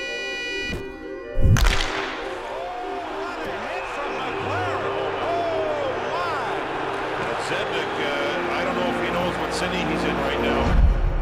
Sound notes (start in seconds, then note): 1.9 crowd clamoring; 2.4 sports announcers speaking